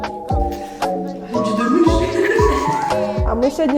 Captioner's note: speaks Kyrgyz language